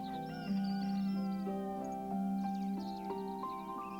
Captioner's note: rooster crowing